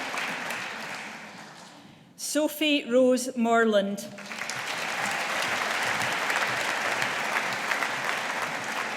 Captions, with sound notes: Sophie Rose Morland. (AUDIENCE APPLAUDING)